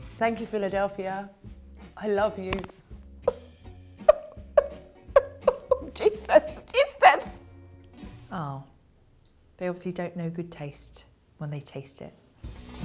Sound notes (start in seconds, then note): 3.4 fake crying